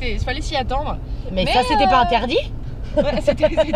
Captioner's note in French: rires